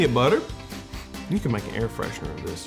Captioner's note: sniffing